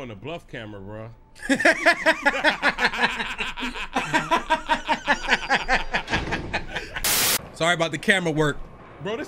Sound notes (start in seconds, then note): 1.4 both men laughing